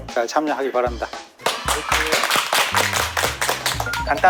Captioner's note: welcoming with applause